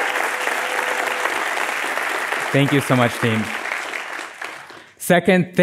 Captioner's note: applause